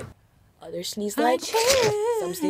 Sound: sneezes

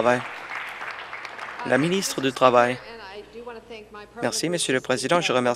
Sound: applause

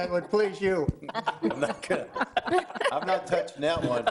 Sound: laughing

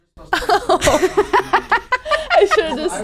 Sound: laughing together

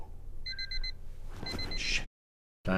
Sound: alarm Clock Beeping

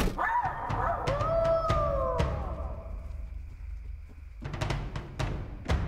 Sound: wolf Howls

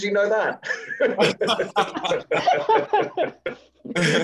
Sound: all laugh

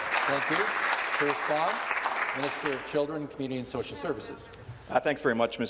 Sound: some Applause

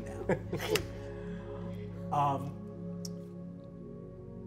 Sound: laughs

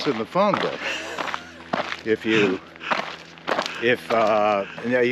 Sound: laughing

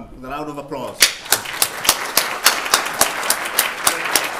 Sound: applause

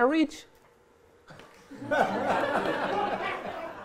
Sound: laughter

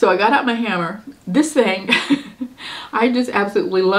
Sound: laughs

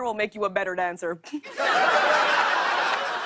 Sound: laughter

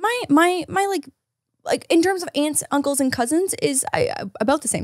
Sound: none

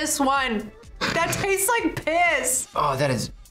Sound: snorts

